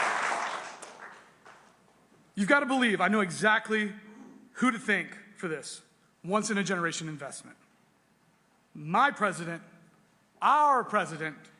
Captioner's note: applause